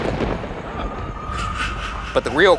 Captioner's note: thunder rumbling